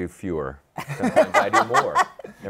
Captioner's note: laughter